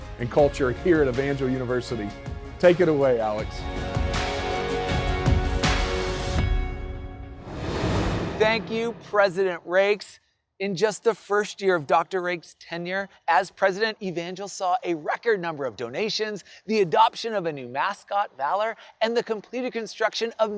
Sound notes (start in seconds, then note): 3.9 uplifting music; 7.2 air whooshing